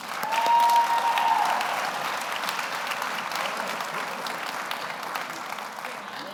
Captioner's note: audience applauds; audience cheers